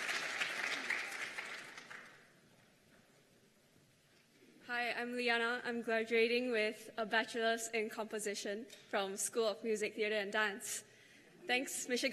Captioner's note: cheers and applause